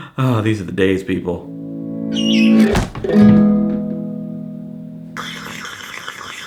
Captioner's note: guitar; eagle screeches; slurps coffee